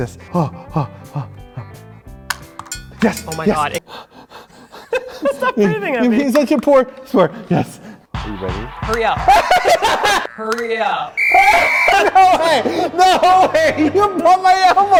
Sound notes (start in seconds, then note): 3.7 panting